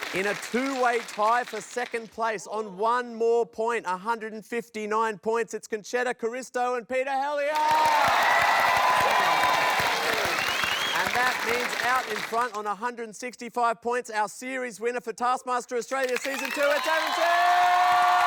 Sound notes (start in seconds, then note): 7.4 cheering, applause